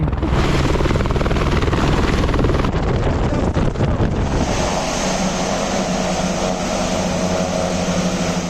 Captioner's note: aircraft sounds